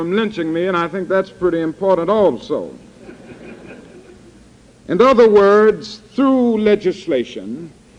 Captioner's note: laughter